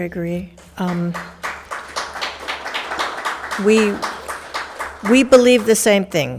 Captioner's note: audience applauding